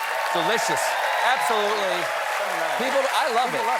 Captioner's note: applause